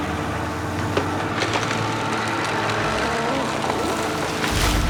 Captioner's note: wood creaking